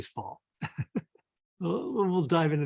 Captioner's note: chuckles